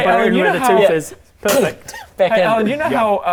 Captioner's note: bmph